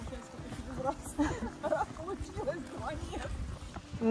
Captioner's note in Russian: смех